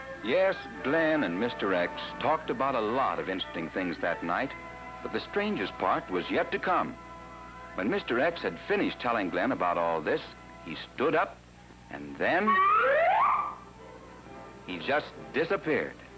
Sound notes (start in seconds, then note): 12.4 doofy slide whistle sound